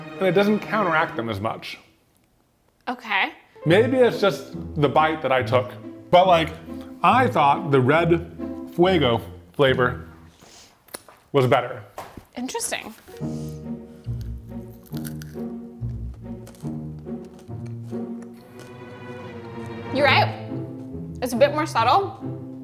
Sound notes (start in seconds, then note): 12.9 gentle comical music; 14.0 Takis crunching; 18.3 tense music